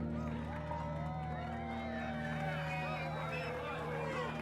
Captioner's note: party cheers